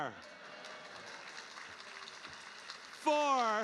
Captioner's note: audience applauding